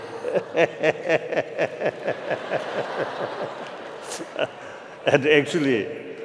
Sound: chuckling

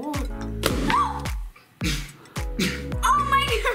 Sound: gasps

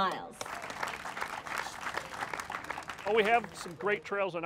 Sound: applauding

